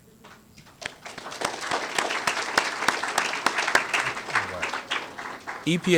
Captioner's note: applause